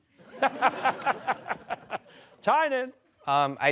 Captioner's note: laughter